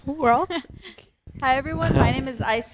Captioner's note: laughing